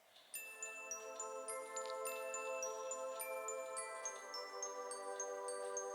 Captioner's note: Tinkling bells and sleepy Soot